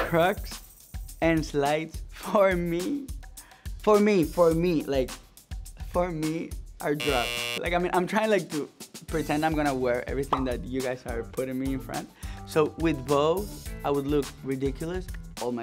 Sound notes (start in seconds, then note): 6.9 buzzer sounds